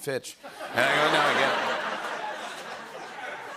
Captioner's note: laughter